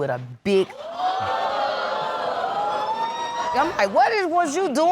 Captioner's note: audience gasps